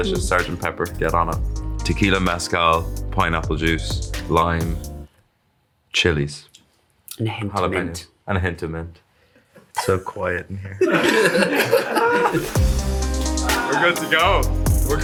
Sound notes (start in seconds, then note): 10.8 everyone laughs; 12.1 chill music plays